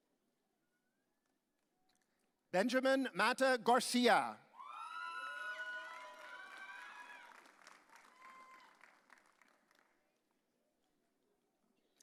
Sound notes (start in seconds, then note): 4.6 audience cheering